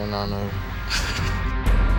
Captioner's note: laughs